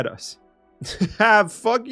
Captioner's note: laughs